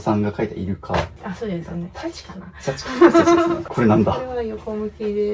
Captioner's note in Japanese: 笑い